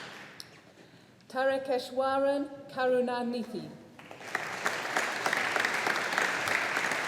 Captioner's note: audience applauding